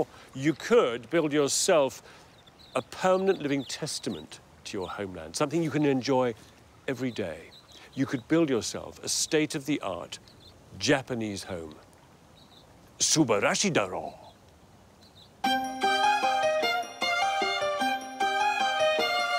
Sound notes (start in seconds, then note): 12.9 speaking in foreign language; 15.4 upbeat music